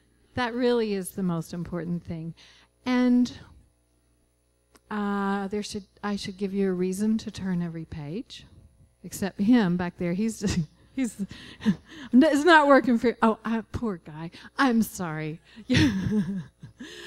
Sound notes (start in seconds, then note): 12.3 laughing; 15.7 laughing